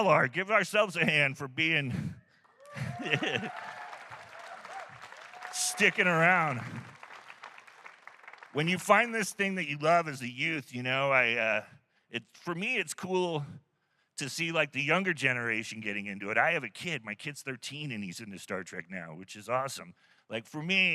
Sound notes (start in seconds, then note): 7.9 laughs; 8.2 applause